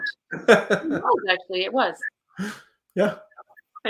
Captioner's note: laughs